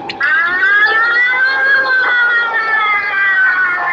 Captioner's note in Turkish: Ambulans siren sesi